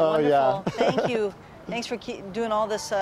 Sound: laughter

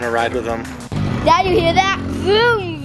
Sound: engine revs

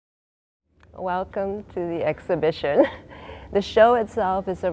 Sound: ambient background hum

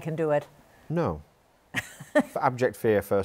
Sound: laughs

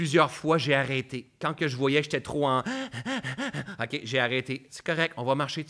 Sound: bruits d'essoufflement

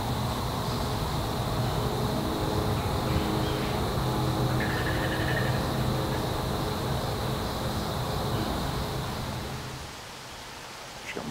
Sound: birds

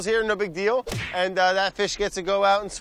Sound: punching sound

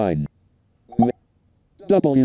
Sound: beep notification

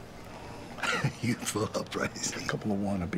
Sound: chuckling

